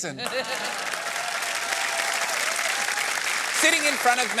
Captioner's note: cheering and applause